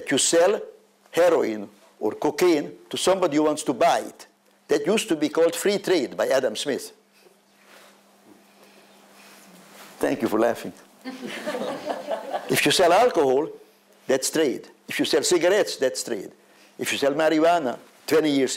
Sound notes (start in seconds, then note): 8.4 laughs; 11.0 laughter